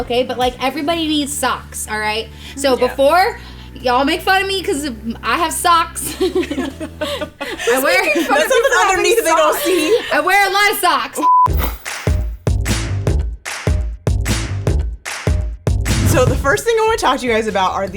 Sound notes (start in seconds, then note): 6.0 all laughing; 11.8 upbeat music